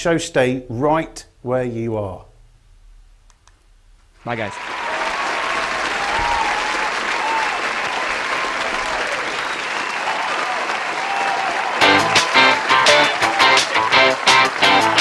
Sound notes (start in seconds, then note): 5.1 audience cheering; 11.8 upbeat music